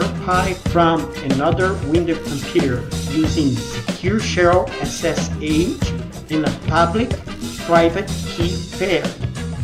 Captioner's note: ssh